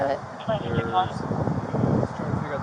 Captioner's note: radio chatter